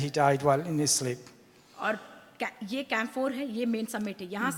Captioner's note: speaks foreign language